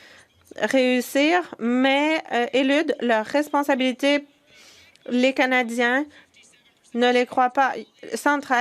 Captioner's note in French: voix de l'interprète